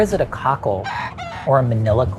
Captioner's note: chicken clucking